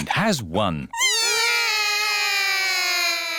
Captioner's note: all cry